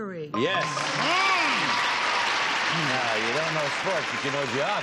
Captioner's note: applause